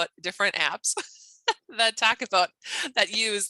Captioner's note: laughing